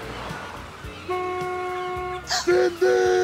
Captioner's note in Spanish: Toca la bocina del auto